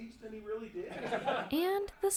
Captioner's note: laughter